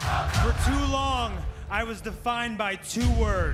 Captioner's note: crowd cheering